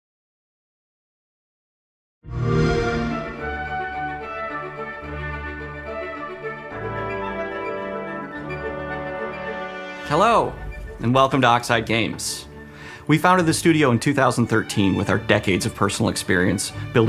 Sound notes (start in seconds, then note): 2.3 xbox sound; 3.3 upbeat music playing